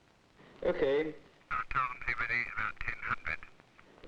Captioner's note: speaking over phone